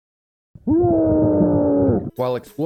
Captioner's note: screams of agony and anger